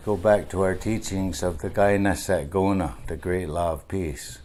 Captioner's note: speaking in Onondagan